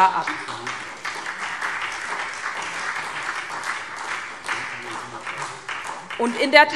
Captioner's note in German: Beifall SPD